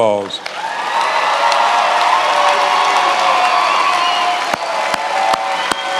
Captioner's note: attendees applauding and cheering